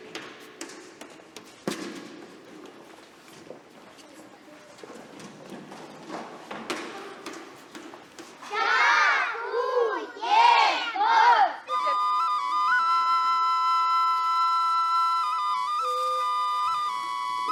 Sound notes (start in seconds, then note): 2.4 echoing of kids playing; 11.6 lyrical flute solo